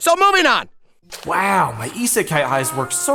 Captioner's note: Rudy Voiceover